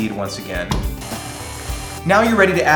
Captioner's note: mixer noises